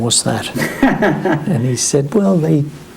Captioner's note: laughs